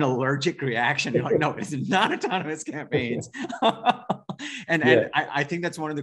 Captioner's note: laughing